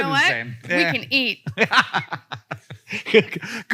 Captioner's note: Hank laughs